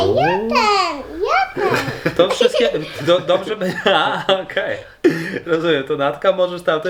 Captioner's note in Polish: śmiech